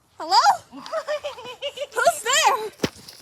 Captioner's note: menacing laughter